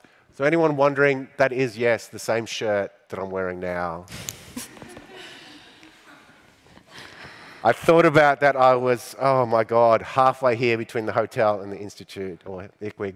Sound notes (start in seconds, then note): 4.5 laughing